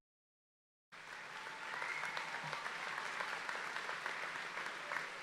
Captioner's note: audience applauding